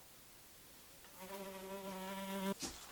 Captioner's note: buzzing